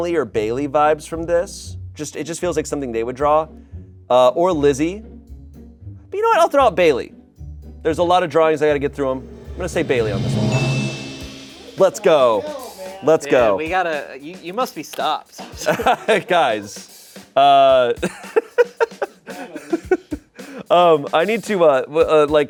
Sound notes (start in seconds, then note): 9.2 bell dings; 18.6 Shayne laughs